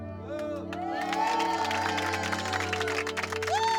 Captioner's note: cheers and applause